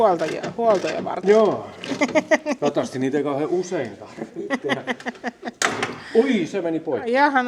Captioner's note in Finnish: naurua